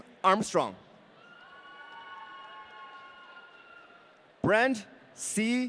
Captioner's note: audience cheering